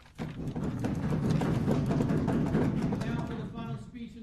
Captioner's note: applause